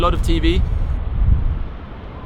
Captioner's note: wind blows